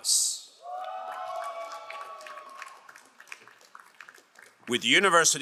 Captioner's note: crowd cheering and applauding